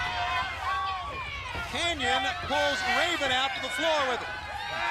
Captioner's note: crowd chatter